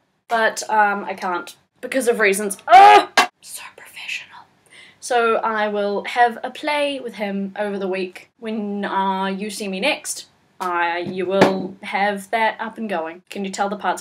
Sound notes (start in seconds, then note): 2.6 aaah!; 3.4 whispers